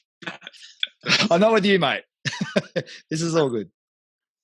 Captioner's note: laughs; laughing